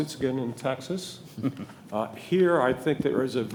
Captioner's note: chuckling